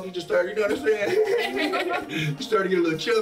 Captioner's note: laughs